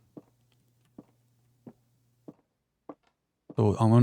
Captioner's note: footsteps